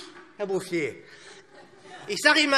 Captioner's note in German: Heiterkeit